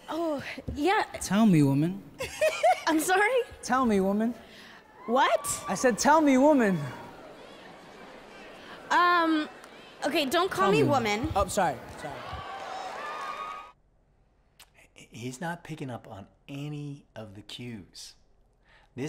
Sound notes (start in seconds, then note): 2.2 ladies on the panel laugh